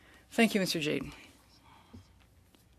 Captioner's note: speaking French